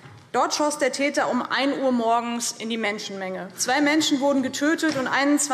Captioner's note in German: none